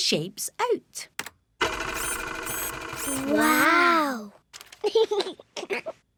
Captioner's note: printer whirring; giggles